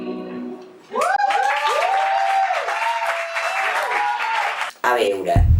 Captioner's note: applause